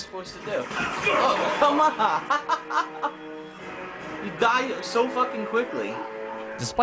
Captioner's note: laughter